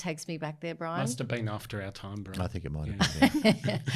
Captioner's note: laughs